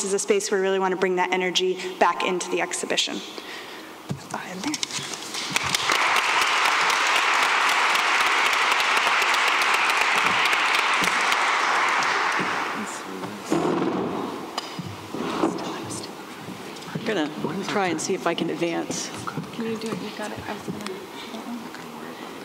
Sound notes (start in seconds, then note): 5.0 applause